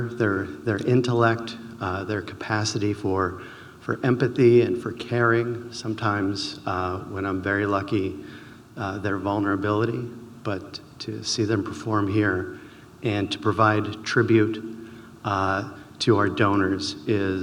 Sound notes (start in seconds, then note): none